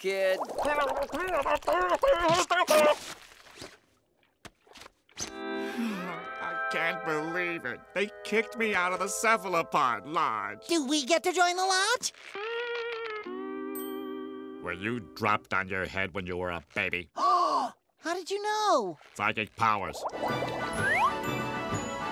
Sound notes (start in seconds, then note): 5.6 sighing; 16.9 gasping